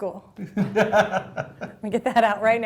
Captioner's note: laughing